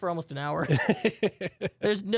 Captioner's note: softly chuckling